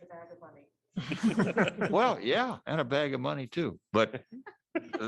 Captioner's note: laughter